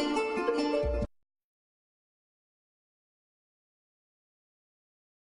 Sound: silence

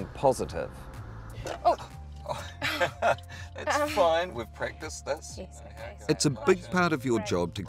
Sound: laughter

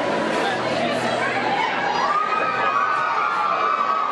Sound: screaming

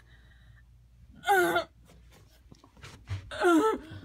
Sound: groaning

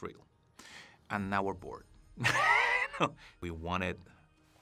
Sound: laughs

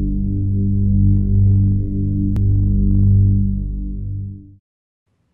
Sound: reverberating tone

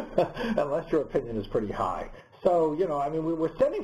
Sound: laugh

